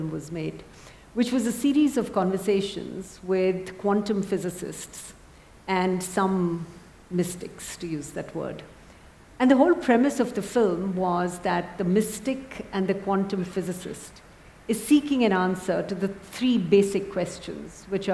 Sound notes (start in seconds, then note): none